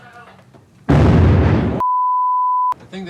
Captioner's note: explosion bangs